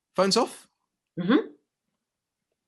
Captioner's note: sound of agreement